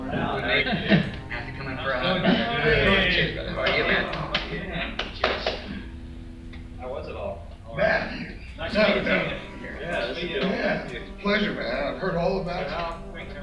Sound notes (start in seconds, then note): 8.8 group indistinctly chattering